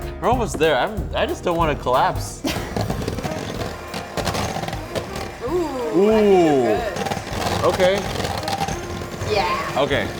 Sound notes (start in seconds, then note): 2.3 mixers whirring; 5.4 both ooohing